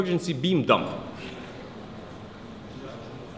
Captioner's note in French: Le public murmure furtivement